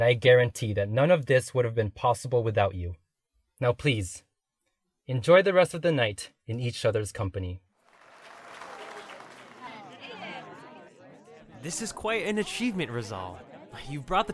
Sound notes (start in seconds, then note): 7.8 crowd applauding; 9.4 scattered conversations